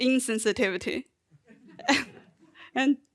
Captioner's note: audience and chuckling